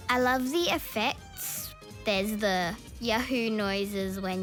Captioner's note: none